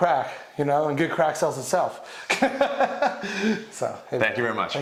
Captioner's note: laughs